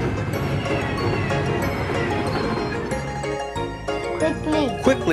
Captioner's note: train whirs; upbeat music